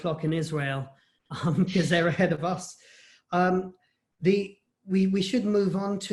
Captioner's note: laughter